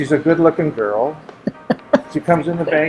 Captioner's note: laughing